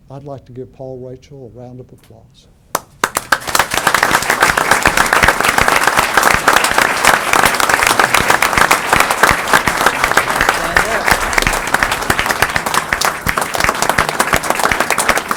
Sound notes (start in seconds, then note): 2.7 applause